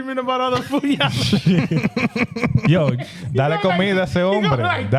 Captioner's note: laughing; speaking In Foreign Language